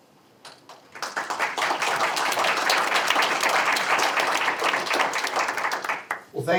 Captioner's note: applause